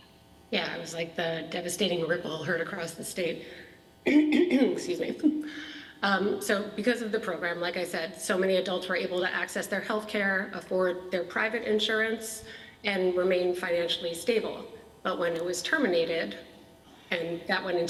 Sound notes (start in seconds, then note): 4.0 clears throat